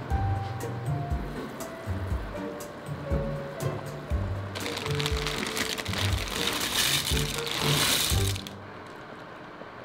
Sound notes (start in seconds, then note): 4.5 bag crinkling